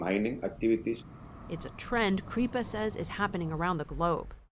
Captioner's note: voice-over